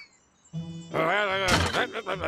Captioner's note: angry mumbling